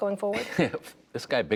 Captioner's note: laughter